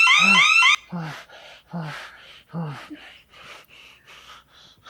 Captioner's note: Perez breathing deeply